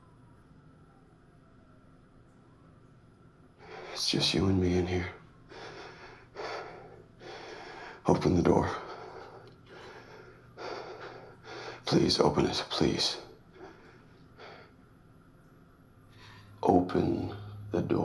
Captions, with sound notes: It's just you and me in here. (heavy breathing) Open the door. (heavy breathing) Please open it. Please. Open the door.